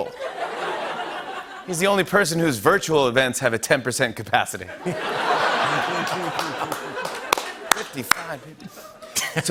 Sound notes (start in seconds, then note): 0.0 laughter; 4.8 laughter and applause